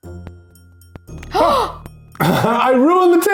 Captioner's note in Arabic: لهيث مفاجئ